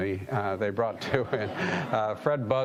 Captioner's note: audience laughing